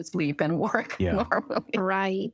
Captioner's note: laughter